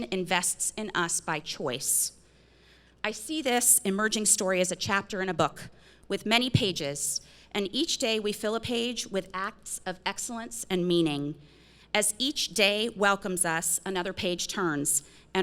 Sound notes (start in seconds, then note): none